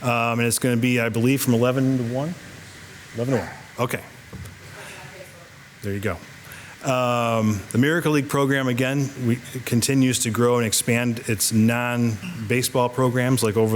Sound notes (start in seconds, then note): 4.8 staff member speaking faintly